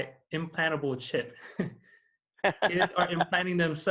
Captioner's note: laughing